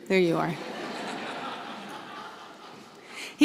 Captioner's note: laughter